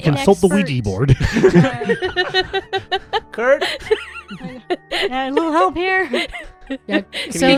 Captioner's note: laughter